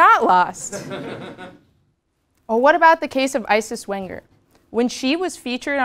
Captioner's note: laugh